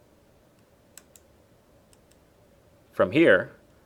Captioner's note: mouse clicking